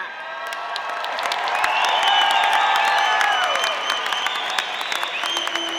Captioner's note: audience applauding